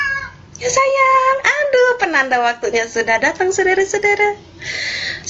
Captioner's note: miauw